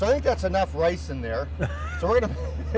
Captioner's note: laughs